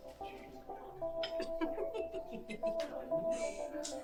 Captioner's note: people laughing